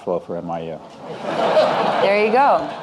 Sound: audience laughing

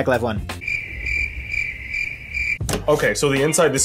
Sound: crickets chirp

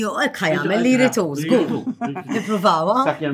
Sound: chuckles

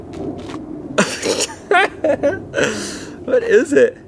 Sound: laughs

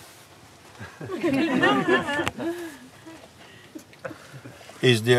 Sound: laughter

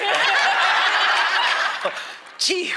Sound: laughter

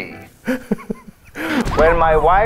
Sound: laughs

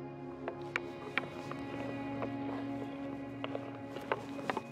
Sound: hockey sticks clacking

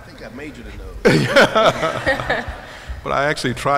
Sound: laughter

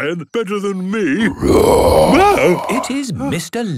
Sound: loud roar

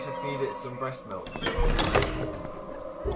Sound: door creaks

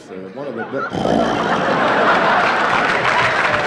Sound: snoring

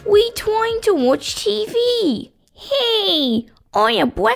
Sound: none

